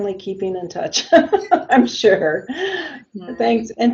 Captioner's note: laughs